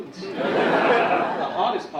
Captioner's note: audience laughing